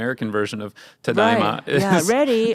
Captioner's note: speaking in Japanese